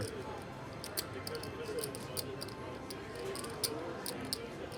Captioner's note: soft clacking